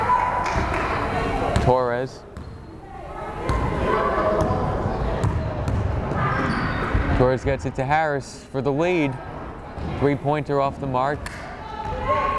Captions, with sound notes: Torres! (crowd chattering) Torres gets it to Harris, for the lead. Three pointer off the mark.